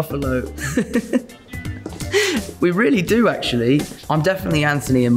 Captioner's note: laughs